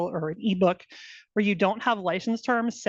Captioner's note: none